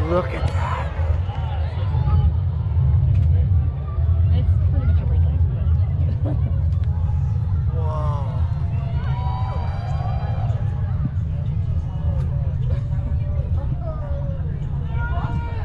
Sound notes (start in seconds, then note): 2.0 crowd constantly cheering